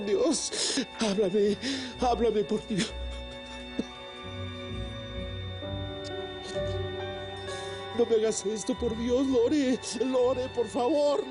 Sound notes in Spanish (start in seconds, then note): 4.4 Sollozos